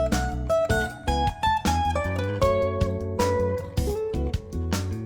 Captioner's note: none